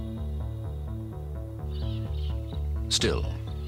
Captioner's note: birds chirping